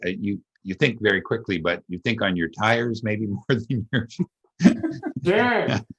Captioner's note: laughs